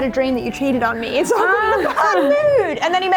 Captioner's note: laughing